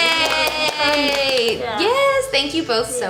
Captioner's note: clapping